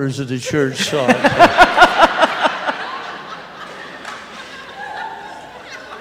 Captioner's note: laughter